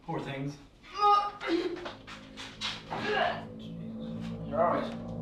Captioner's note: Sarah retches